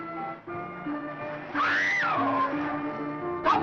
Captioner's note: screams